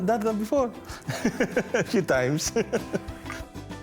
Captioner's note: laughs